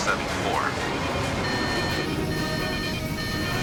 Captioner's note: alarm